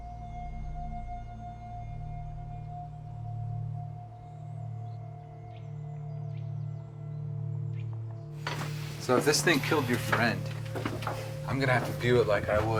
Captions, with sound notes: (tense music) (birds calling) - So if this thing killed your friend, I'm gonna have to view it like I would